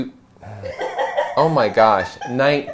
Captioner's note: laughter